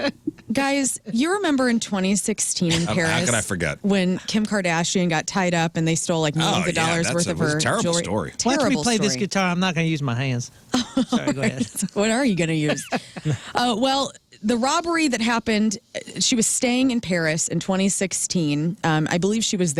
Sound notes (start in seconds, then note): 2.7 laughing; 12.3 laughing